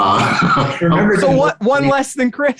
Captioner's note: both chuckling